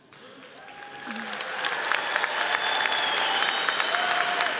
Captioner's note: audience applauds